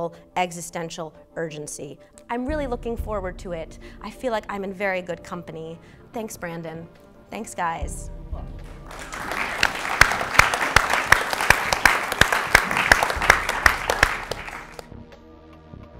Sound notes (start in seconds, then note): 8.6 applause